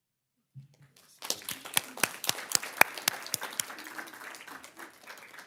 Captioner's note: everyone claps